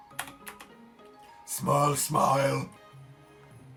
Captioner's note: still in low voice